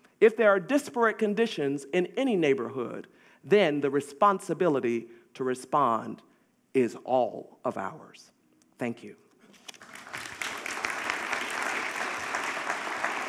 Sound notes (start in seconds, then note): 9.7 audience applauding